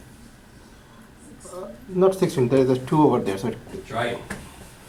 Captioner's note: voiceover